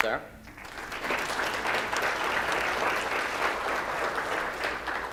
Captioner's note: audience applauding